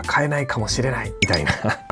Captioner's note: laughs